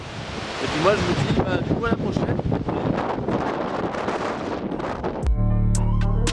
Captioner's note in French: Trop de vent